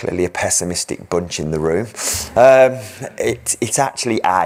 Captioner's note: audience chuckles